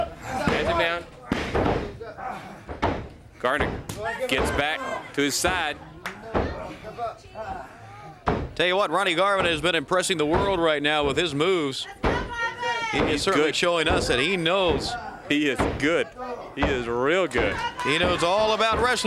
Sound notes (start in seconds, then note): 0.2 crowd cheering; 4.5 crowd chatter; 7.7 crowd chatter; 14.7 crowd chatter